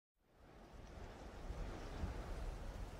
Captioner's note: soft winds